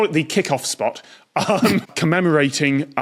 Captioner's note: snorts